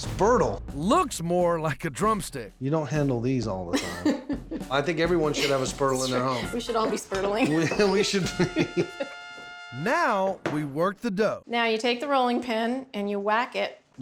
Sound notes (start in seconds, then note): 5.3 laughing; 7.5 both laughing